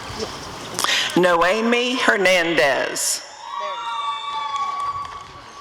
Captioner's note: applause and cheering